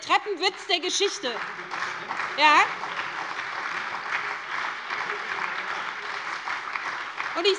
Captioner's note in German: Beifall bei der SPD und der FDP